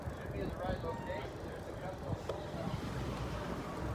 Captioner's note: background chatter